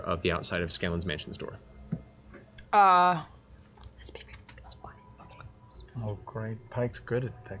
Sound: whispers

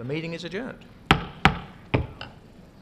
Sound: gavel bangs

